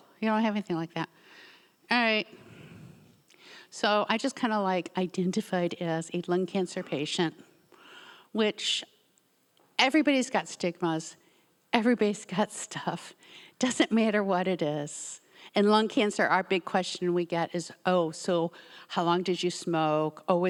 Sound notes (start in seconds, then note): 2.3 sighs softly